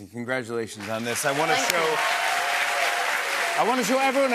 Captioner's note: cheers and applause